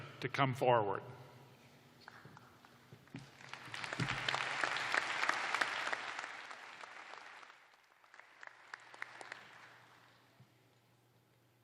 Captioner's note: applause